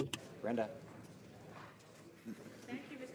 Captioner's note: speaking French